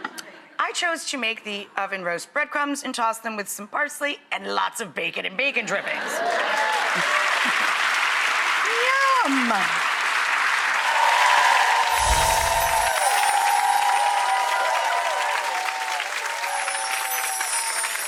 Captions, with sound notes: I chose to make the oven roast bread crumbs and toss them with some parsley and lots of bacon and bacon drippings. (clapping) Yum! (cheering)